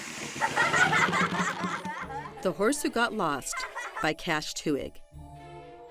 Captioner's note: children laughing; logo whooshing